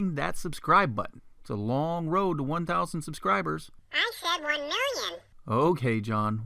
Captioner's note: man's voice